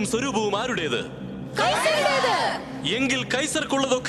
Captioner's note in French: Criant